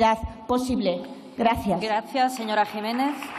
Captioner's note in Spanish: Aplausos